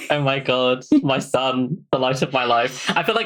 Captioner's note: laughs